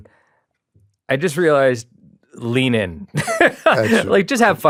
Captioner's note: laughs